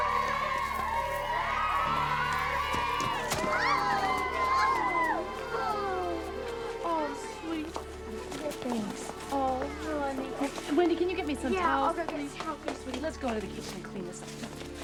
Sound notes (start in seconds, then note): 1.7 suspenseful music playing; 3.4 clamoring